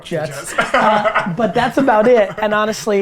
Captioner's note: group laughter